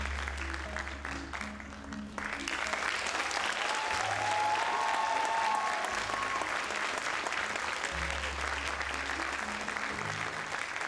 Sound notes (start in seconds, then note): 2.4 audience cheers